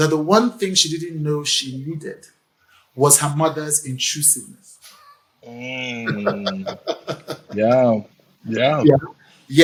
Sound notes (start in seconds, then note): 5.8 laughs